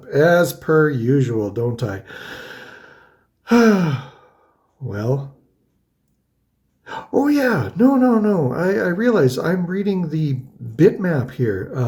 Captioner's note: sighs